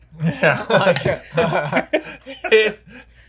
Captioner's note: all laugh